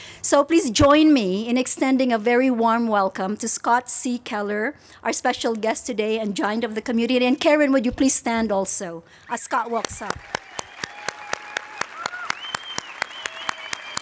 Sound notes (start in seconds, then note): 11.1 applause